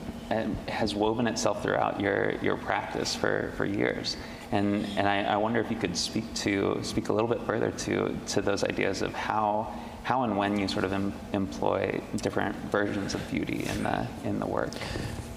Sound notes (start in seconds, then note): none